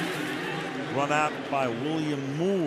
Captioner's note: pa announcement